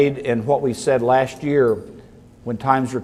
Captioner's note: none